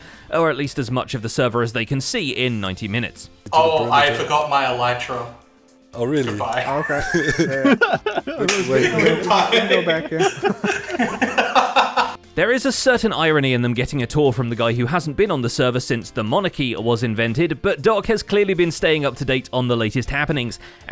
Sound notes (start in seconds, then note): 6.4 laughs; 11.6 laughing harder